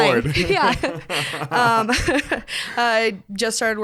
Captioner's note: both laugh